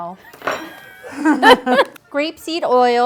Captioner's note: laughs